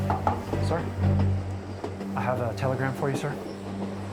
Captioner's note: knocking; tense music